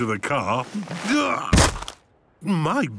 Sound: thuds

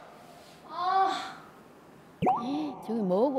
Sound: groaning

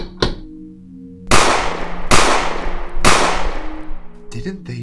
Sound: knocking; gunshots

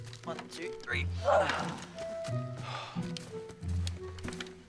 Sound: boys grunt

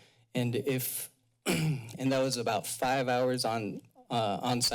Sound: clears throat

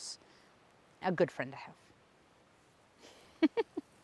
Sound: laughs

